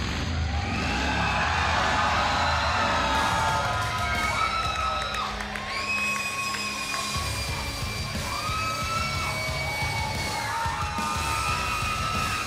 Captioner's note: crowd cheering